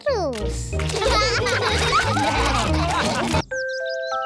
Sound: all laugh

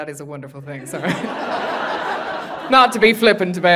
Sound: audience laughing

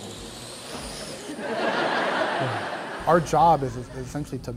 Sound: laughter

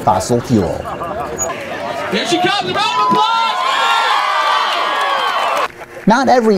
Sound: cheering

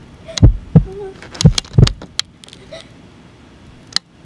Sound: gasps and whimpers

